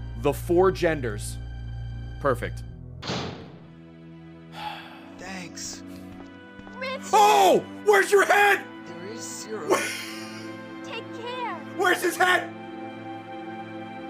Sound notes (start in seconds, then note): 4.5 sighs; 9.7 laughs